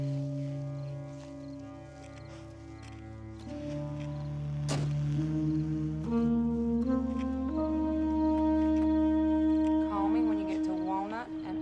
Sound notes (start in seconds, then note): 4.6 door slamming; 6.8 somber music